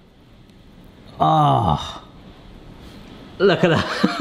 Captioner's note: sighs